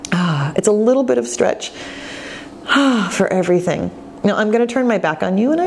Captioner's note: exhales